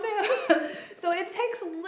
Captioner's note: laughs